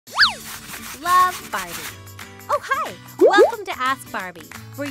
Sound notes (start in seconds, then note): 0.6 whistle